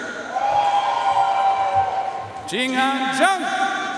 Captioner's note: audience cheering and applauding